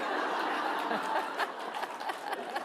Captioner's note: laughter